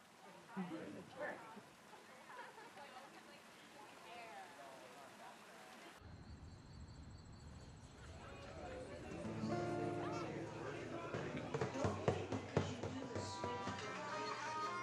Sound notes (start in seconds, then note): 0.0 tourists chattering; 6.0 crickets chirping; 8.1 patrons chattering; 9.2 lively music playing